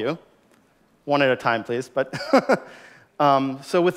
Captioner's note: chuckles